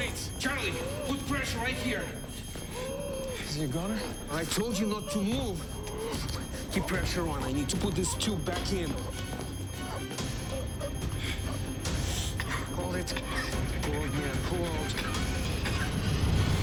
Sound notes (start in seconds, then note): 9.8 beeping continues; 11.9 coughing